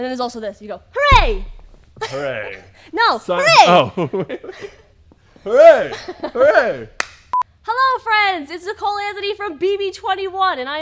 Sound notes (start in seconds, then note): 5.8 chuckles